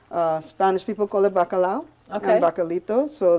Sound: speaking in foreign language

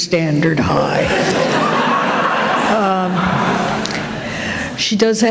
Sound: laughter

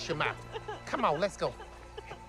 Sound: continues crying

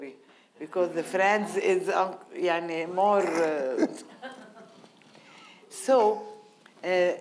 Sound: audience laughing

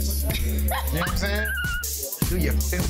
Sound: laughs

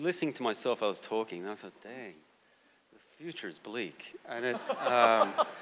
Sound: audience laughter

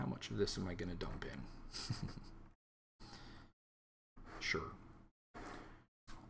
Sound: chuckling

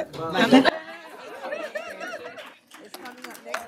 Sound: laughter

